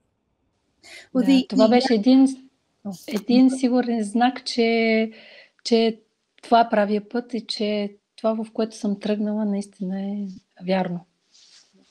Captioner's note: foreign Language followed by English Interpreter